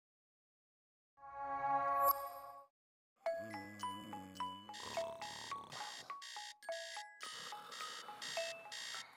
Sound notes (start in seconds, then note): 3.3 snoring; 3.5 alarm clock beeping